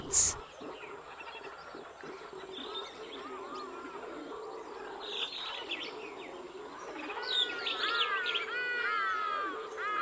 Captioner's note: forest and howler monkey sounds